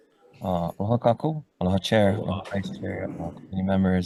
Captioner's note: speaks foreign language